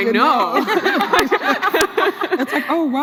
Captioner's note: laughs